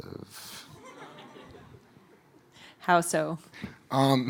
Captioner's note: audience laughing